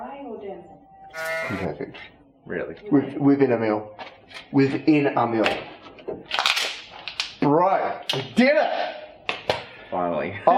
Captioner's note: goat noice